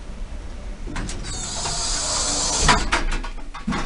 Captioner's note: doors squeak and clunk themselves shut